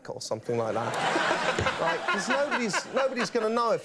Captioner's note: audience and Conan laugh